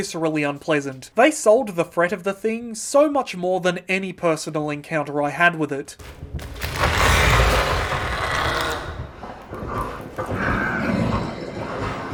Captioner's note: in French* Horrible monster noises